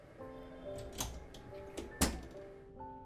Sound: door opening and closing

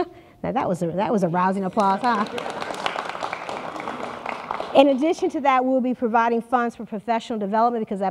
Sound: applause

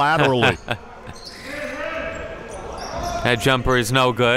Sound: laughing

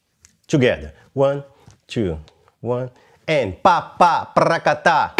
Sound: vocalizes rhythm

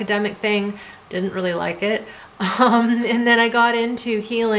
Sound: laughs

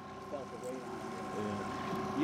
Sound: trolling motor humming

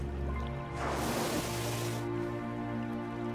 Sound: water splashes

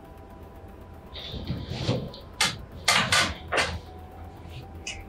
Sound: bed creaking

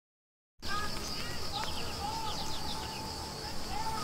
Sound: birds chirping

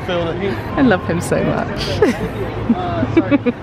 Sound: giggling

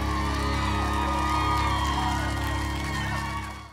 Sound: applause

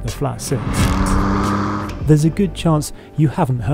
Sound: engine roars

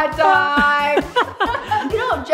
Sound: laugh

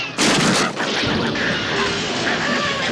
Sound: barking viciously

